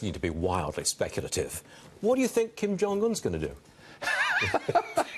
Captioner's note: laughter